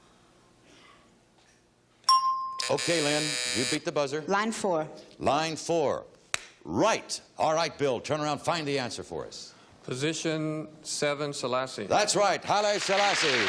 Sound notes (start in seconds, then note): 2.1 bell dinging; 2.6 timer buzzing